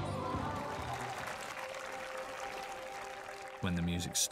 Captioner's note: applauding